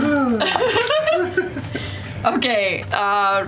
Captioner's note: sighs; laughs